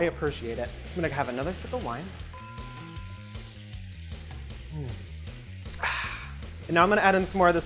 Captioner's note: clinking